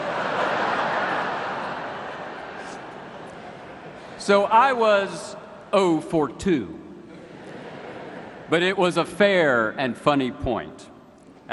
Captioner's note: laughter